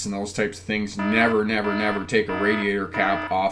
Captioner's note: alarm blaring